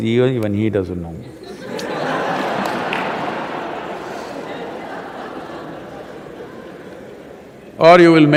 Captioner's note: laughter